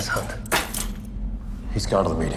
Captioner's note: chains rattle